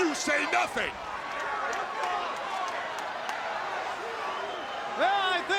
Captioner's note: crowd cheering and clapping